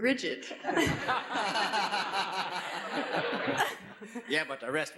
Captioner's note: laughs